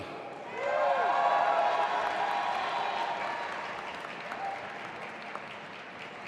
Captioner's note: audience applauding and cheering